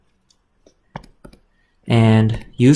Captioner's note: keyboard clicks